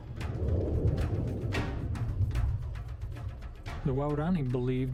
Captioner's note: air whooshing